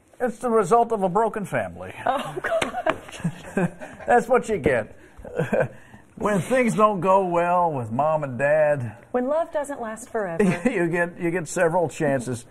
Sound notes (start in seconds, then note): 5.2 laughter